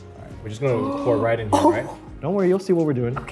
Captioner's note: Arden gasps